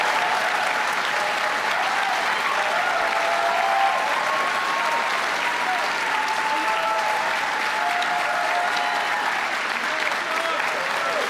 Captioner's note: applause